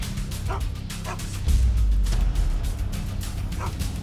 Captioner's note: dog barking